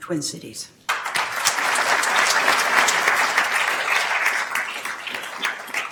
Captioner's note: attendees applauding